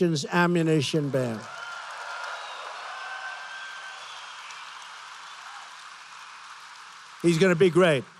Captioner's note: applause